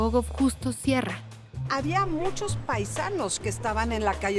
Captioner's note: speaking Spanish